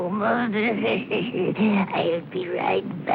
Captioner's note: wheezy laughter